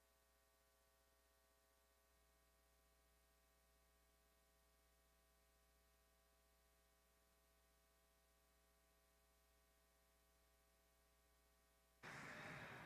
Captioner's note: applause